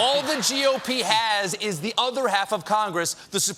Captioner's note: laughter